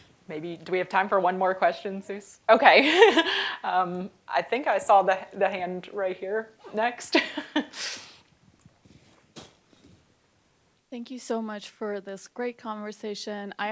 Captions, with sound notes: Maybe, do we have time for one more question, Zeus? OK. [LAUGHS] I think I saw the hand right here next. [LAUGHS] Thank you so much for this great conversation.